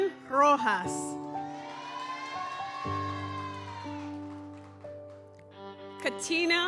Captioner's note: gentle music continues; audience cheers